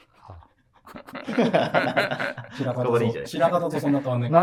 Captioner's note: laughing